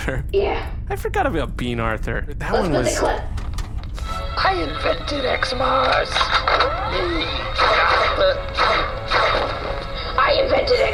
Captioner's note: tv plays